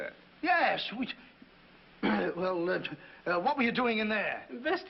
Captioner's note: clears throat